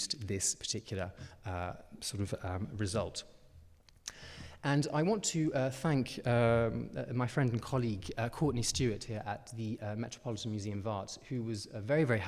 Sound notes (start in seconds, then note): none